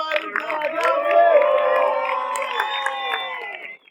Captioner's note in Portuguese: Plateia: palmas e assovios